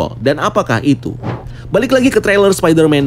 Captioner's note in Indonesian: suara transisi